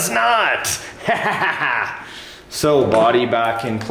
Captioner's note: excited chuckling